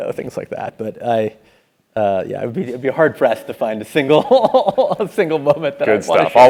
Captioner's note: laugh